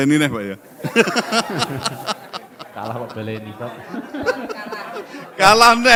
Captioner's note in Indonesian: tertawa